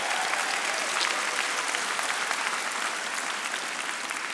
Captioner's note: audience applauding